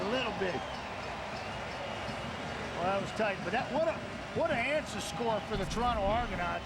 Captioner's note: applause